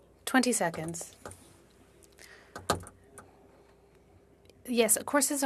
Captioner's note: speaking French